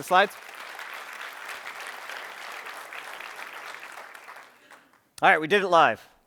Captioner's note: applause